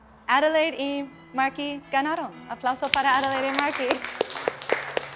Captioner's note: speaking in Spanish; class applauding